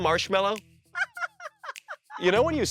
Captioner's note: laughing